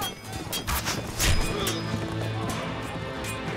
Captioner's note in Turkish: Ok fırlatma sesi